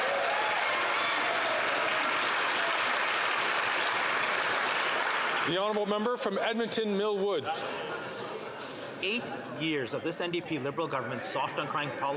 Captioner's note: some Applause